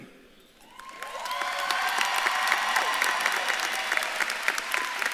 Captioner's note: audience claps and cheers